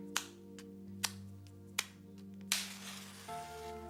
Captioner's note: match striking